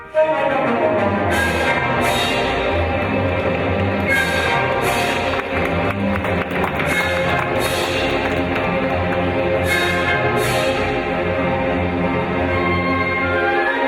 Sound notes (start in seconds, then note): 0.1 intense music begins; 4.2 audience clapping; 9.7 intense music continues